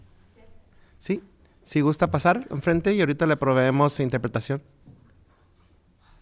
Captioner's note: speaking in foreign language